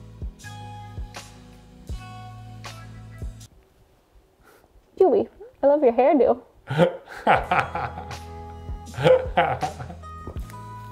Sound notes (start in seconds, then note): 0.0 gentle music; 7.3 laughs